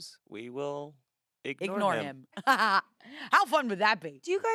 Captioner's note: laughs